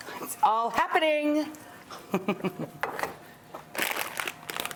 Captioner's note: giggles